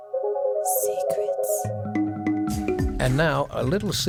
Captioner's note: lady whispering "secrets"